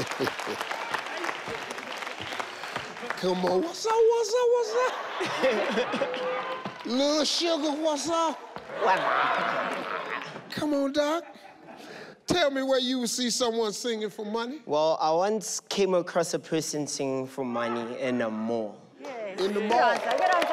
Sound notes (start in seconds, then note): 0.0 Steve laughing; 4.5 audience laughing; 8.7 audience laughing